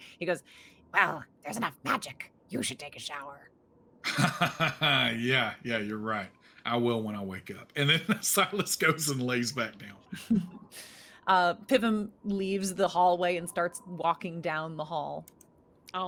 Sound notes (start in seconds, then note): 4.0 chuckles